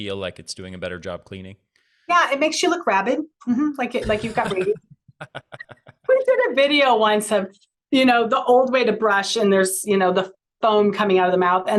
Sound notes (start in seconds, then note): 4.0 laughter